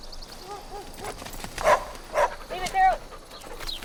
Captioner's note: bird chirping; dog barking